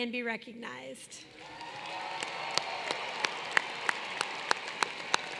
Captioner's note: applause